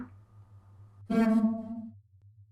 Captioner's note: wee-ooo!